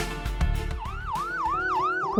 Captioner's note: siren wailing